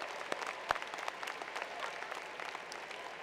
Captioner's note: applause